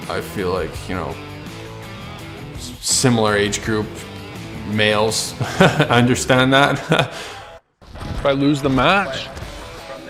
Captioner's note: laughs